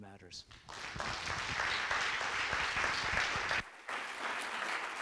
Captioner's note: audience applauds